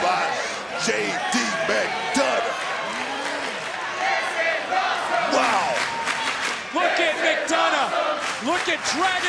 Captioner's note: crowd chants "this is awesome"